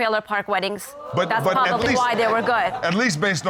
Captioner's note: audience exclaiming